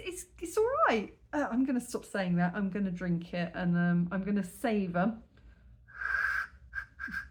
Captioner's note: blowing